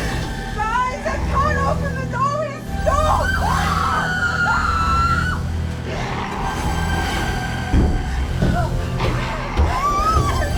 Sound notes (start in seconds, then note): 2.9 all screaming; 8.9 crying